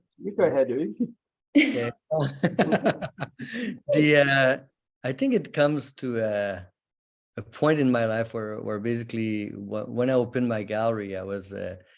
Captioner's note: laughter